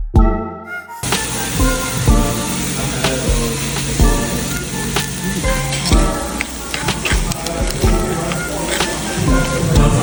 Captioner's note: sizzling